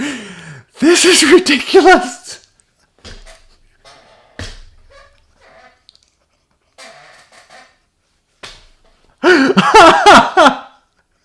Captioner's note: laughs uncontrollably